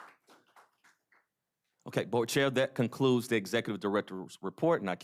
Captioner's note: applause